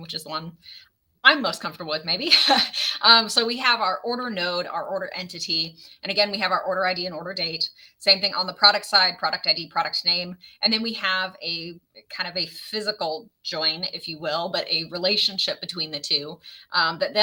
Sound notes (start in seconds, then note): 2.2 laughs